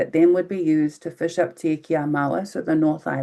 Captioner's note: speaking in foreign language